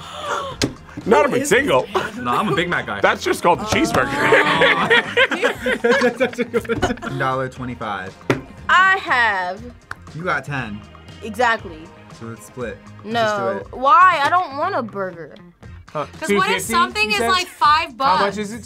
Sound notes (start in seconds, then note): 0.0 React gasps; 5.7 group laughs